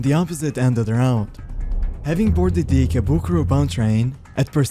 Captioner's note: air whoosh